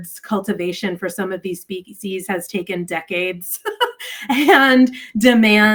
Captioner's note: chuckles